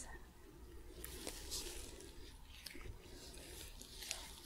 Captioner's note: sticky sounds